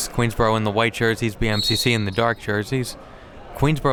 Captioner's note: whistle blows